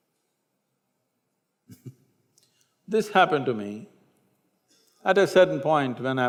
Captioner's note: laughs